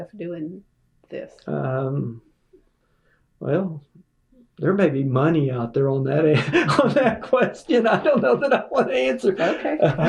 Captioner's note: laughter